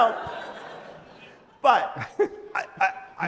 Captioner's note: audience laughs